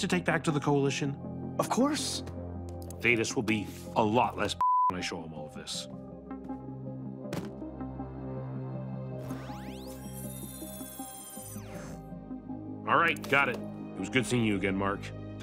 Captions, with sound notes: to take back to the coalition? - Of course. - Thaedus will be a lot less (beep) when I show him all of this. (books thudding) (scanner buzzing) Alright, got it. It was good seeing you again, Mark.